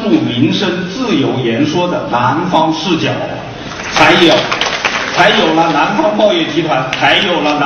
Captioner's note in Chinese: 众人鼓掌声